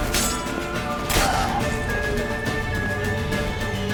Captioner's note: cries out